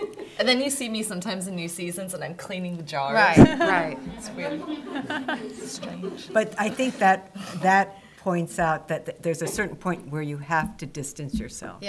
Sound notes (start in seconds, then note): 3.3 chuckles